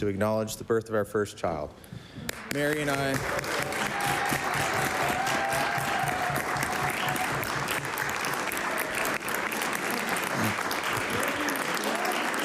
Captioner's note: applause